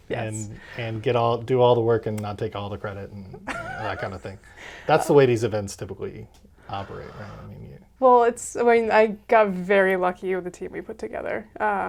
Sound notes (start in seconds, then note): 3.4 laughs